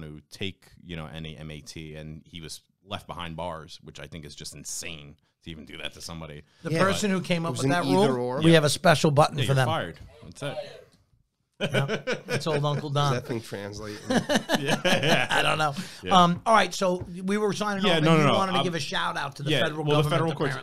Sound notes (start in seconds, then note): 10.1 buzzer Voice; 11.6 laughs